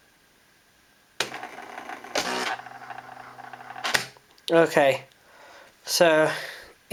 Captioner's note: printing